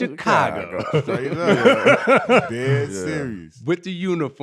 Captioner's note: laughing